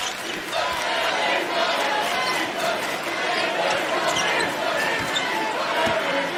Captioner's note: laughing